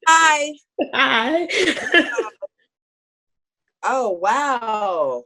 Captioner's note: laughs loudly